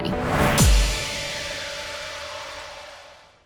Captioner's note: logo crashes